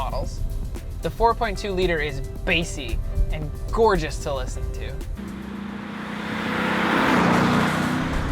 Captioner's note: revvs